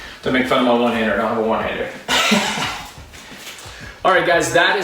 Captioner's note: laughs